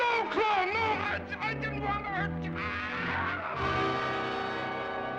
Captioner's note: screams; dramatic music